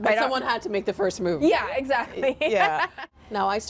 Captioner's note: laughing